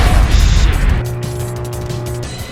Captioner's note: radiation sounds